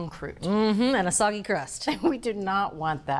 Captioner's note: none